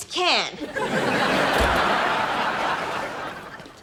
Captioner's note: laughs